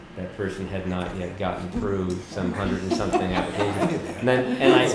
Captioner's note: laugher